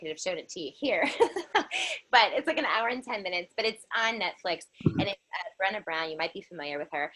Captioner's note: laughter